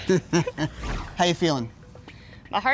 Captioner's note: laughs